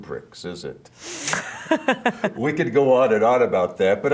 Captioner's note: both laughing